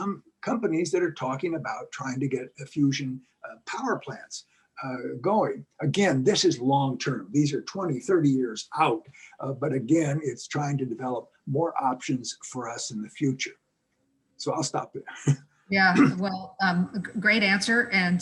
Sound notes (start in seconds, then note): 14.4 laugh; 15.9 cough